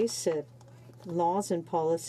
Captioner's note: speaking in french